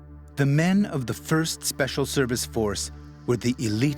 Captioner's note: voiceover